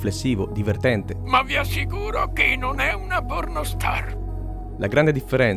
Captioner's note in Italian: voce di abe simpson